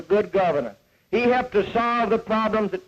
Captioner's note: none